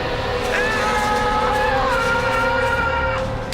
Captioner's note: scream